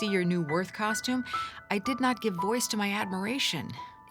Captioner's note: none